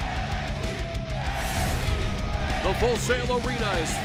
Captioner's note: fans chanting